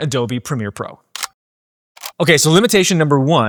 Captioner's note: camera clicking